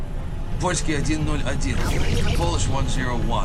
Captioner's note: pilot speaking in Russian